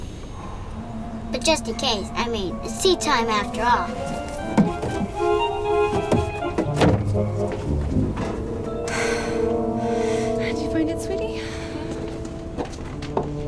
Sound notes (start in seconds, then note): 7.1 door bangs; 8.8 Maddie sighs